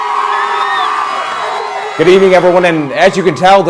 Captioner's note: cheers